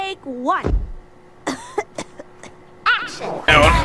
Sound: coughing

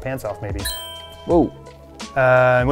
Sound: clink

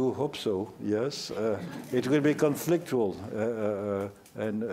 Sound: laughter

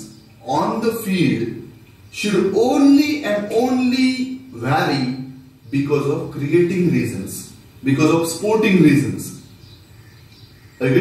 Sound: cricket

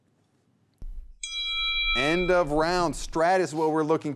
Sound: bell rings

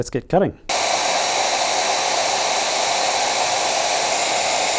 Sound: machinery whirring

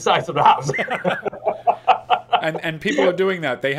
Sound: both laugh

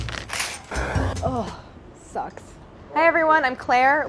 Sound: upbeat music; sighs

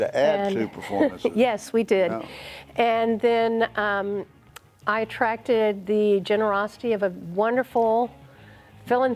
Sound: laughing

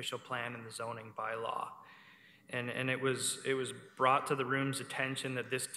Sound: none

